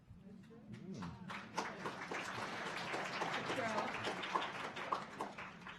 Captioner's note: audience applauding